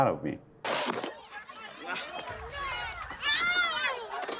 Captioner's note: people yelling